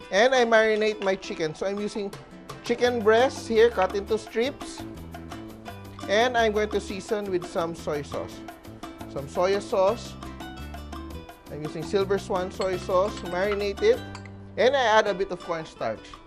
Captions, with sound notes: and I marinate my chicken. So, I'm using -- chicken breasts here, -- cut into strips. And I'm going to season -- with some soy sauce. Some soya sauce. I'm using Silver Swan soy sauce -- [Clink] to marinate it. And I add a bit of cornstarch.